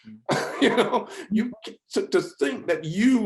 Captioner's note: laughs